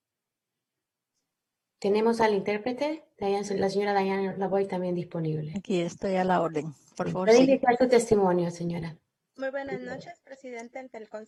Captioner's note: speaking spanish